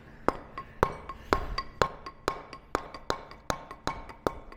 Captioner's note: metal hammering